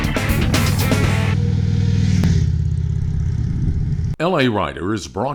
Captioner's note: motorcycle engine roaring